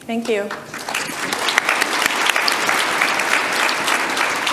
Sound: audience applause

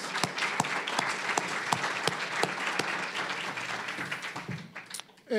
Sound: applause

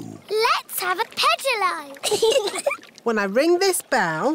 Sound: giggling

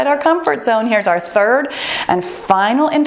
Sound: timer beeps

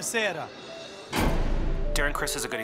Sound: door slamming

